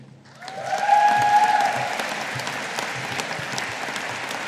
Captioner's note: audience applauding